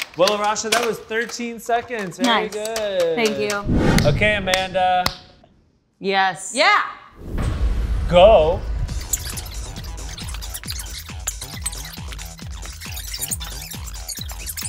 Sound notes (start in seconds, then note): 9.4 sped up audio sound